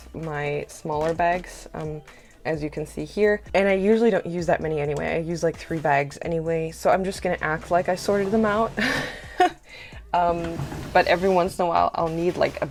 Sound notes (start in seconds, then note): 8.8 laughter